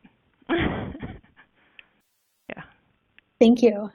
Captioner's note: laughs